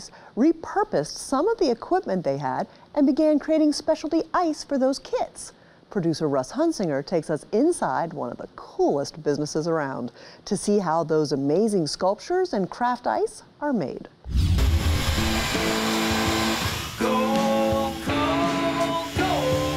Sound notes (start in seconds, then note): 14.3 saw whirring